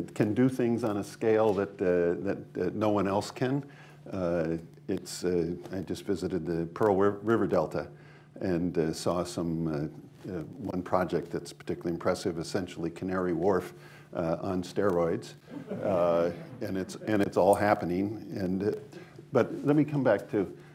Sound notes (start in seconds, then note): 15.4 laughter